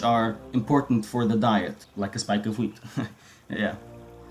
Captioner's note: chuckle